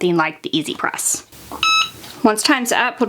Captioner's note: press beeps